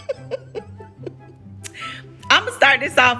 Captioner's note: laughs